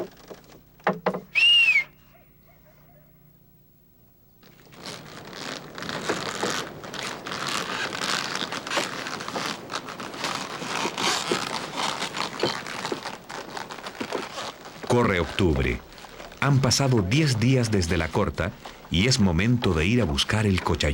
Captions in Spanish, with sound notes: [Ruido de carreta] Corre octubre, han pasado 10 días desde la corta y es momento de ir a buscar el